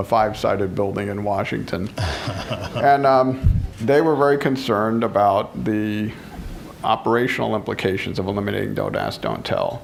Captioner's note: laughter